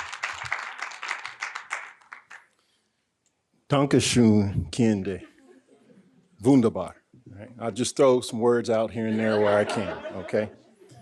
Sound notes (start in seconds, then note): 0.0 audience continue applauding; 3.7 speaking in German